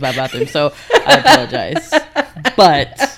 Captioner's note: laughing